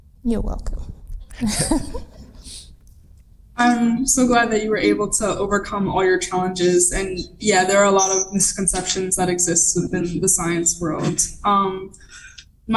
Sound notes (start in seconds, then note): 1.4 laughing